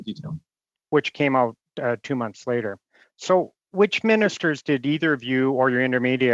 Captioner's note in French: voix de l'interprète